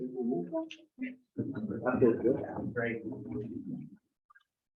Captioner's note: members chattering